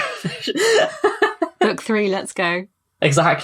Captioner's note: laughs